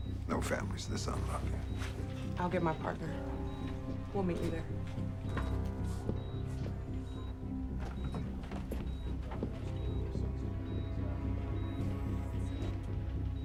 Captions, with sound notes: No family's this unlucky. - I'll get my partner. We'll meet you there. (gentle tense music) (monitor beeping)